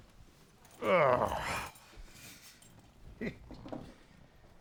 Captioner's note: Sam groans; Sam chuckles